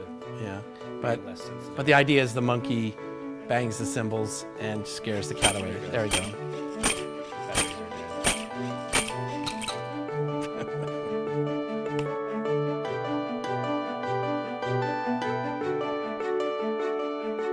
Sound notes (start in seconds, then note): 6.5 toy monkey clapping cymbals